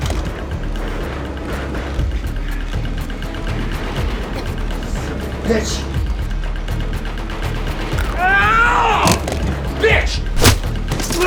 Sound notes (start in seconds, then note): 0.2 gun clacking; 7.9 teeth chomping; 10.7 fist bashing; 10.9 Ramsay grunting